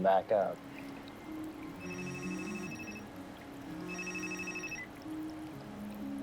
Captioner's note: cell phone vibrating